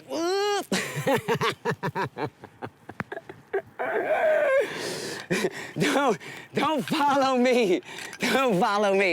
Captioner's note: laughing